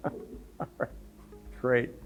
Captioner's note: laughs